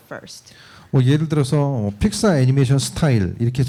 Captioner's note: speaking korean